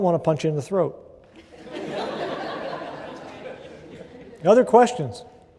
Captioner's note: laughter